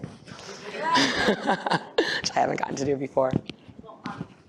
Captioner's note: laughs